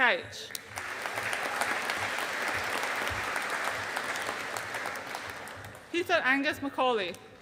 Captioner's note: audience applauding